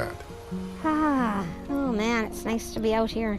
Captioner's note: sighs